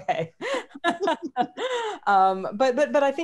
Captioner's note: laughing